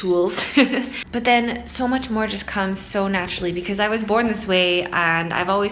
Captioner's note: laughs